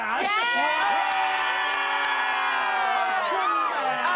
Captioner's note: everyone cheers